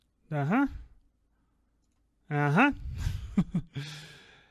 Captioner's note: chuckles